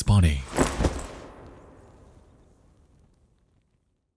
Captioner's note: doll rustling